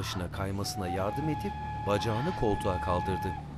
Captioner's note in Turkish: Tren düdük sesi